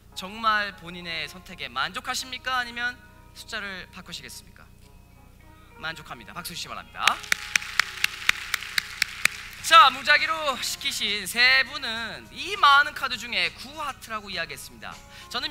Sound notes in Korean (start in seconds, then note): 7.0 박수